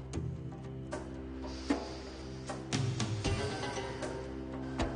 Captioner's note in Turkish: Haşmet burnundan nefes alıp verir